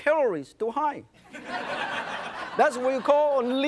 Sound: audience laughs

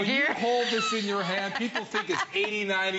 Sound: laughter

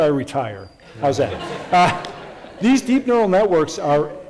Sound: audience laughs

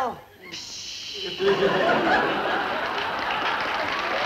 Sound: applause

